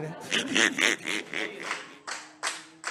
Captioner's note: laughs